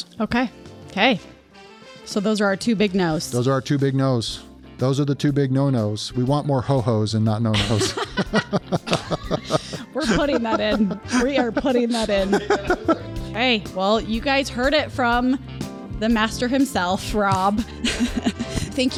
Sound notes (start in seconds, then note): 7.5 both laugh; 17.6 laughs